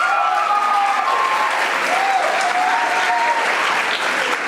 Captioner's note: audience applauding